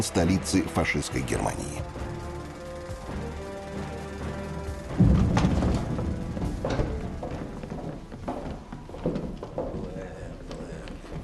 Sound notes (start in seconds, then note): 4.8 sound of doors opening; 7.3 sound of footsteps